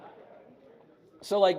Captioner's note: audience laughs